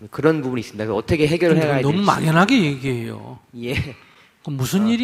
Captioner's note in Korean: 질문자 웃음